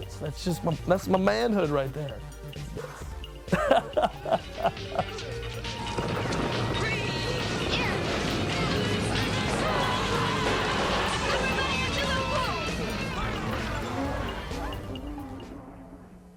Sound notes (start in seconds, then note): 2.7 laughs; 5.6 explosion